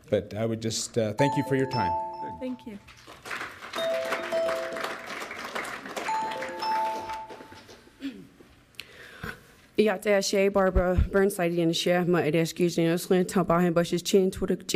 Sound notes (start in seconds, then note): 2.8 audience clapping; 9.4 speaking foreign language